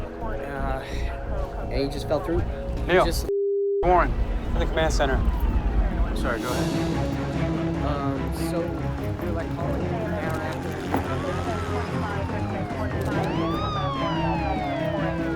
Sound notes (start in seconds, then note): 9.2 police radio chatter